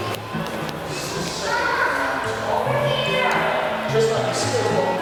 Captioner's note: child chattering